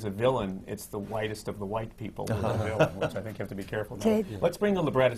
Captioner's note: laughs